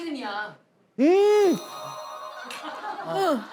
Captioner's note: exclaiming